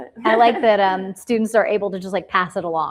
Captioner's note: laughs